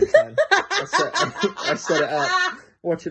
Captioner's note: laughs